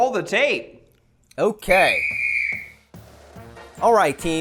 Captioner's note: whistle!